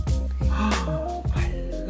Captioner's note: gasp